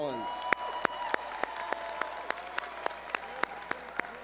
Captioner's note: cheering